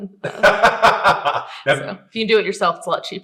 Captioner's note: laughing